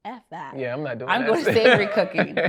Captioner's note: laughs